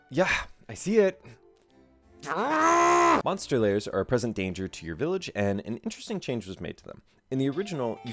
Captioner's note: growl